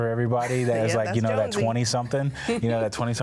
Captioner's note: laughs